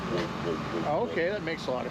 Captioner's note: mimics engine